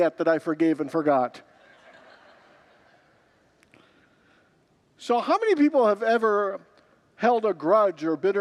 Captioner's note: congregants laugh